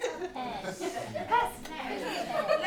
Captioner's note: laughter